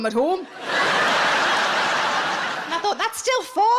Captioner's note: audience laughs